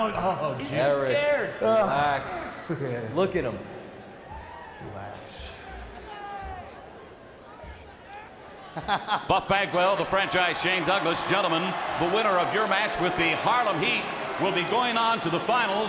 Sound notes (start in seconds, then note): 8.8 Buff laughs